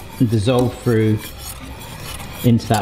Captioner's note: none